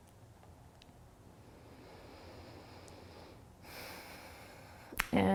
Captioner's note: breathing